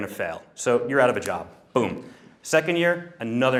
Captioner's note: snaps